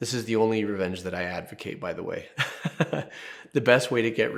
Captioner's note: laughs